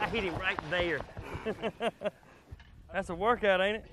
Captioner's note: laughing